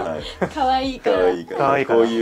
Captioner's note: laughs